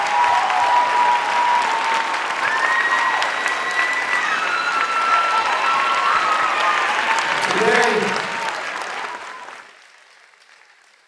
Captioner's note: applause